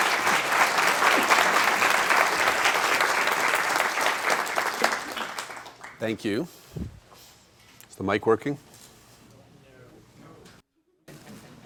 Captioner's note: appuse